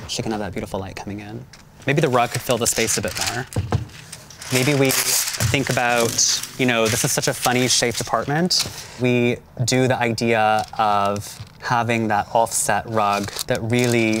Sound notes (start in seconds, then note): 3.8 paper ripping